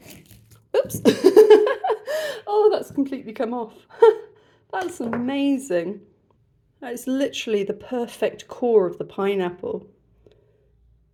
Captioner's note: laughing